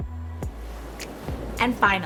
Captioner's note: gentle upbeat music; air whooshing